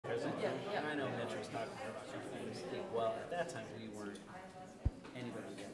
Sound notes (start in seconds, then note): 0.4 crowd murmuring